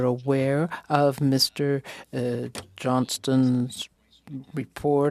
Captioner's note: speaking French